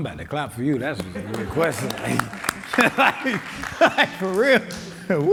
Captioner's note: audience clapping